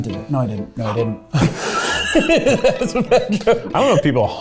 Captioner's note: laughing